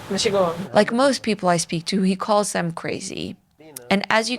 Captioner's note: Yiddish